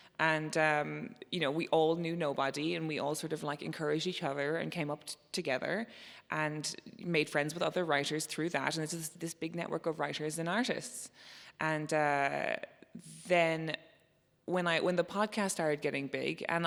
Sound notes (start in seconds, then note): none